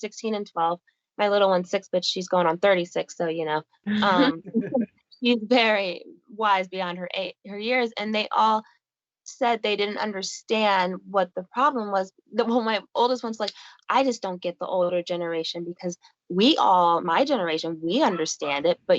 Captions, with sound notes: They're 16 and 12, my little one's six but she's going on 36. So you know (crowd laughing) she's very wise beyond her years and they all said they didn't understand what the problem was. My oldest one's like, "I just don't get the older generation because we all, my generation we understand it